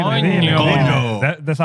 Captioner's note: speaking In Foreign Language